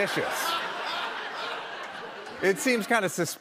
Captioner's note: laughter